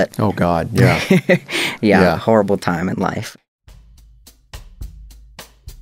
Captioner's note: laughter